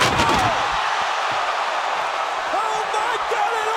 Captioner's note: audience groans; bodies thud